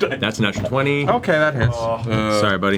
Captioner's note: laughs